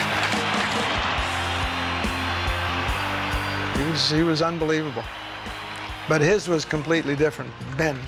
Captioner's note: crowd cheers